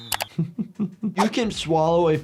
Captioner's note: doctor laughs